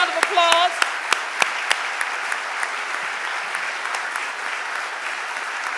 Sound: audience applauding

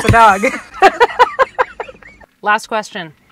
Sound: both laughing

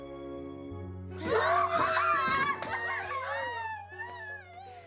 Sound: cheering

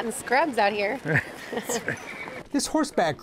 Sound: they laugh

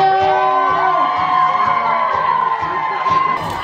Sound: audience cheering

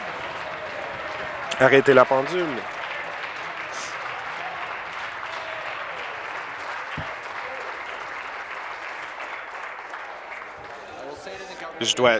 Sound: applause

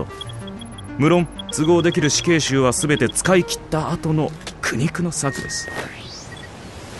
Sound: device beeps

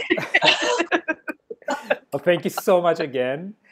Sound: laughing

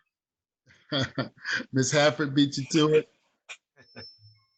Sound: chuckling

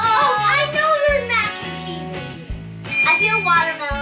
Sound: ding

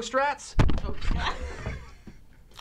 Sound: ball thuds

